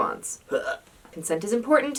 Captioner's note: barf